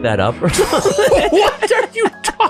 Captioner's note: group laughing